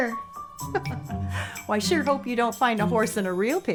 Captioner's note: laughs